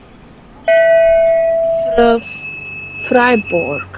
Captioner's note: bell